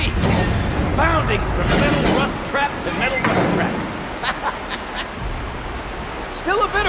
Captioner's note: laughs